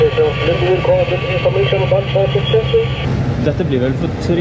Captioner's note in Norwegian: radiobeskjed